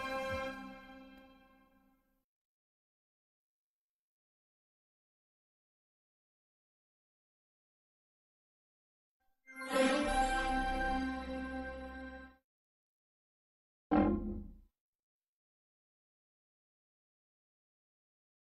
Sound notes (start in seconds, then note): 4.8 silence